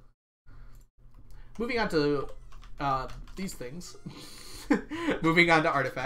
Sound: laughs

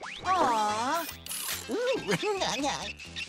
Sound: giggling

